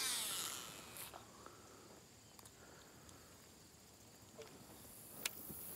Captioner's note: reel whirs